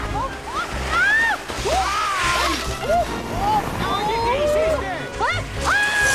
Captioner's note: snowboarder speaking in foreign language; snowboarders screaming and hollering